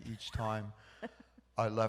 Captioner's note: laughs